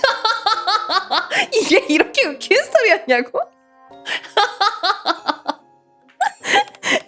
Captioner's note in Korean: 웃음